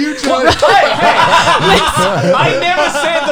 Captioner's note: laughs